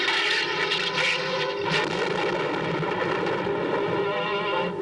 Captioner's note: thunder